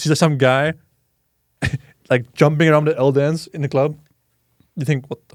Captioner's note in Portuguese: risos